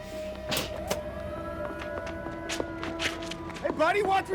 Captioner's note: siren wails